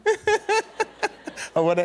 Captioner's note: laughter